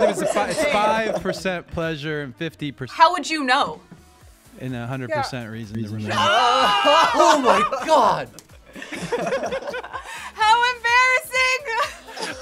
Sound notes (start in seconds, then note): 6.0 reactors exclaim